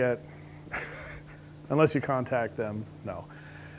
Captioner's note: laughs